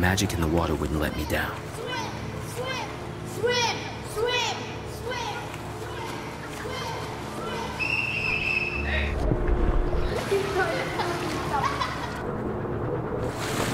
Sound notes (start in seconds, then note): 7.7 whistle blows; 10.2 boys laugh